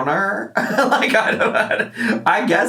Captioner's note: laughs